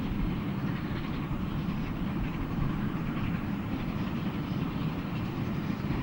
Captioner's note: train passes